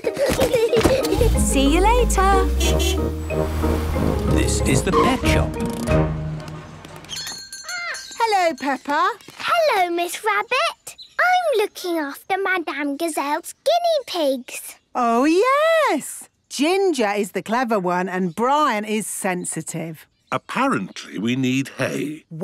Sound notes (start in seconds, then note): 0.0 kids giggling; 1.4 honking; 7.0 bell jingling